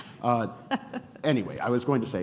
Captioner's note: chuckles